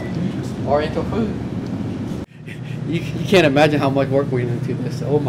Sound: laugh

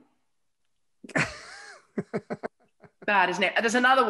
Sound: laughing

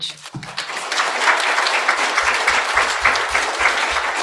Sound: applause

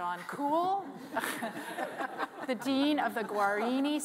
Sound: panelists laughing

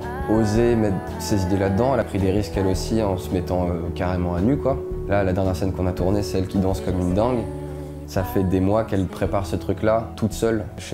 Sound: speaking in french

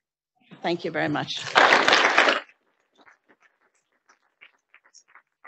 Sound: audience applauding

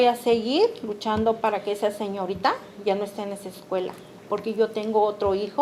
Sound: speaking Spanish

